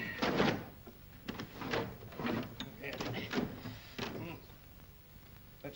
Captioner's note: desk clatters